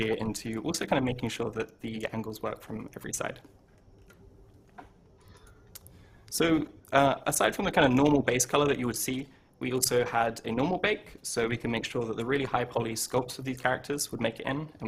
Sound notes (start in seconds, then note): none